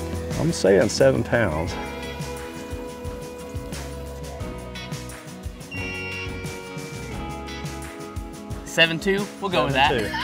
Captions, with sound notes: - I'm saying seven pounds. (gentle music) (beep sounds) - Seven two. We'll go with that.